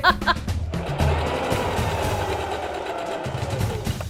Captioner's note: sewing machine whirring; drumbeats